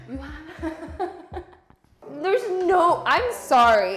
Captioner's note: laughing